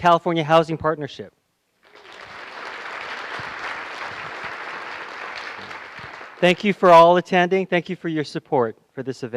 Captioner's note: applause